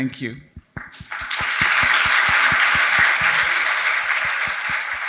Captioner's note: audience applauding